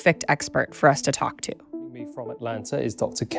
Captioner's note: Audio of BBC